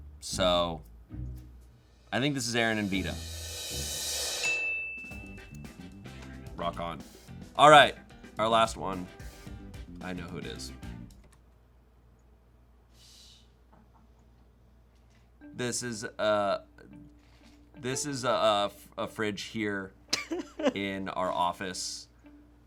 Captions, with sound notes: So I think this is Erin and Vida. (bell dings) (upbeat music) Rock on. Alright, our last one. I know who it is. This is a fridge here in our office.